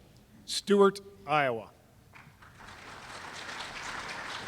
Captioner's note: applause